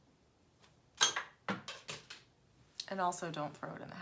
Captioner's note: items crashing on floor